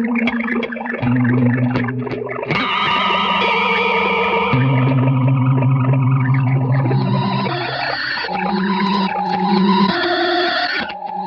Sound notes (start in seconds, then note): 2.1 heavily distorted reverb